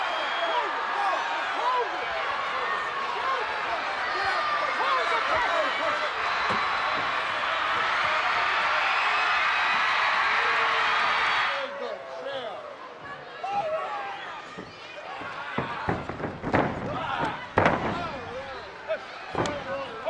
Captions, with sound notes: Close it. No. Close it. Close it. Close the casket. (crowd cheering) (crowd yelling) (body thuds)